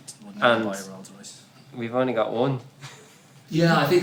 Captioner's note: laughs